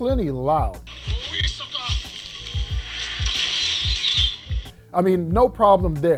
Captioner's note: swords slashing; warriors chanting